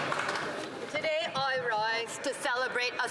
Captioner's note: some Applause